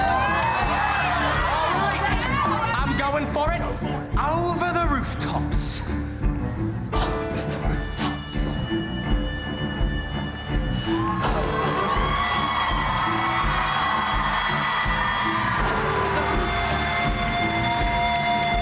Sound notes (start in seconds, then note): 0.0 audience cheering and applause; 4.2 dramatic theatrical music; 13.6 audience cheering